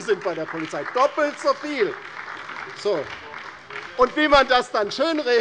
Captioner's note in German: Beifall bei der LINKEN und der SPD